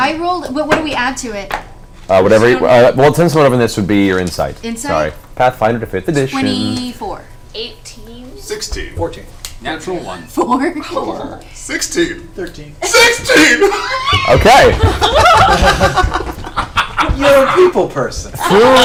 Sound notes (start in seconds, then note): 11.1 laughs; 13.6 happy scream; 14.5 all laugh